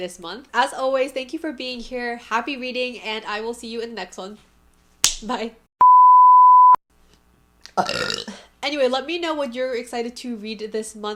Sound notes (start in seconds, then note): 7.7 burp